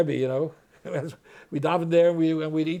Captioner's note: laughs